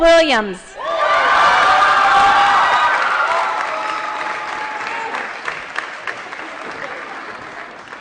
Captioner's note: applause & Cheering